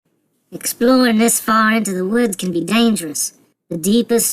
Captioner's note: Australian accent